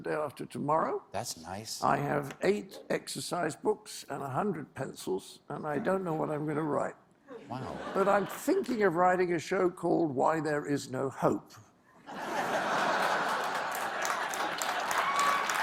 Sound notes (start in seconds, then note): 9.2 applause; 9.2 laughter